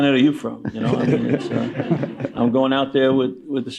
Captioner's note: laughter